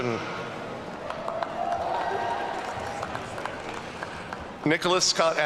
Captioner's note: audience cheering